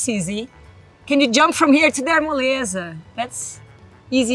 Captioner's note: speaks Portuguese